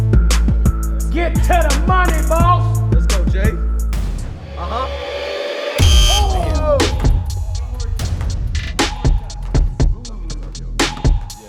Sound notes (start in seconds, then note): 4.0 music builds; 5.8 buzzer